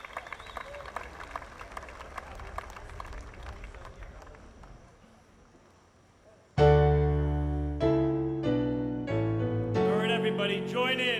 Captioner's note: applause